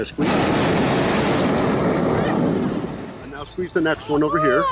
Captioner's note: burner roars